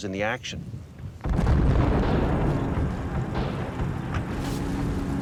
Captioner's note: artillery exploding